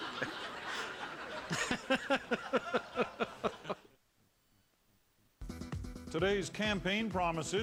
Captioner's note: laughter